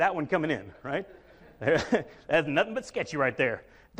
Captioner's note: chuckles